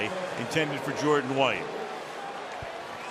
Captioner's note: cheering